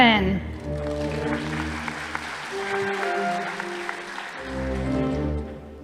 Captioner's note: audience applauding